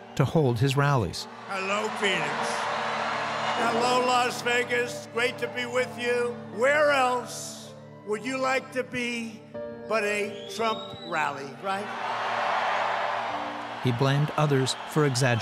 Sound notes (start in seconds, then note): 11.2 crowd cheering